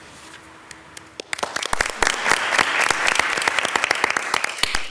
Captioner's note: council applauds